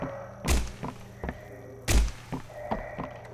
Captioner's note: footsteps